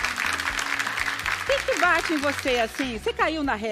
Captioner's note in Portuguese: aplausos